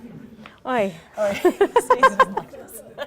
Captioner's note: people laughing; laughs